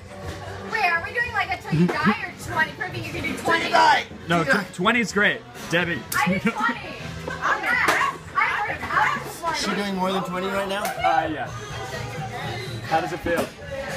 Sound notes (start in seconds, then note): 6.2 laughs